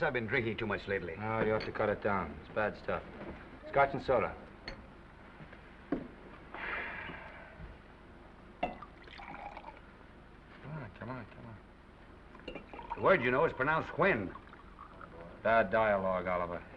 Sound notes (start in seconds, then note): 6.6 Oliver sighs; 8.9 scotch sloshing; 12.4 scotch sloshing